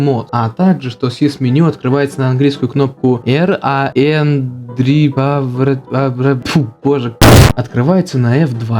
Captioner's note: boom